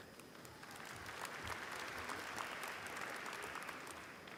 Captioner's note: applause